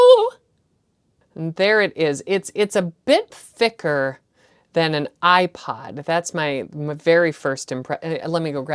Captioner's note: stammers